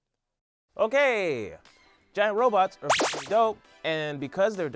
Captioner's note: beep